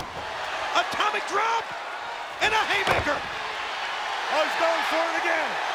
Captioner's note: body thudding